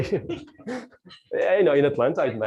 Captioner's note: laughing